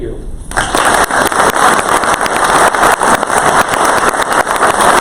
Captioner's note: crowd applause